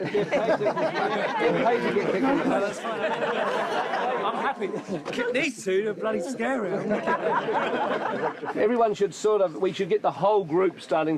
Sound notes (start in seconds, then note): 0.2 crowd chattering; 6.8 all laughing